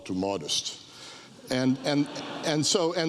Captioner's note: audience laughs